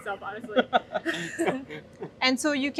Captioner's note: laugh